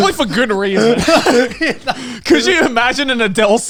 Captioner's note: laughing